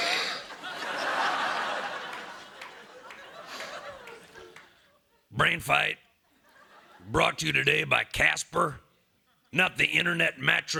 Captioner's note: laughter